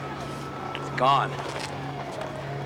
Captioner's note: siren wailing